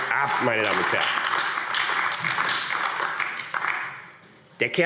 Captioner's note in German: Beifall AfD